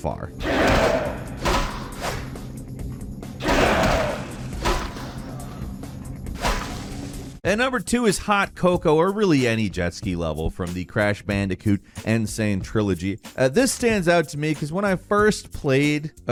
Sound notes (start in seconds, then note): 0.4 monster grunting; 0.4 hammer thumping; 3.4 monster grunting; 3.4 hammer thumping